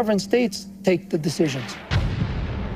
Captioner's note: explosion